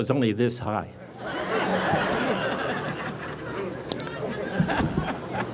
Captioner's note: audience laughs